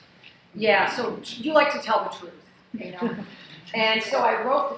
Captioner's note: laughing